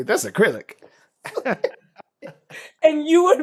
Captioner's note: laughter